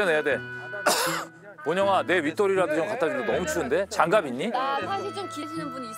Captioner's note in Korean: 콜록